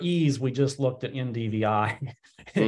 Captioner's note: chuckles